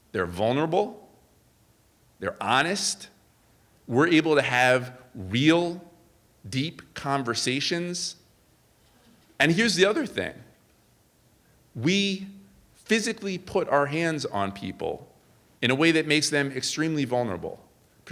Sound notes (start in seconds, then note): none